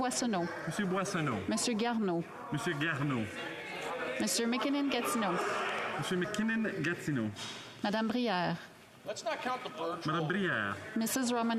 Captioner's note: calling of recorded vote